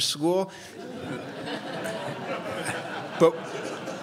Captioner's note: crowd laughs